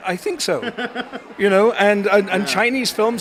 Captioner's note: laughs